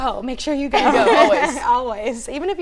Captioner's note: all Laughing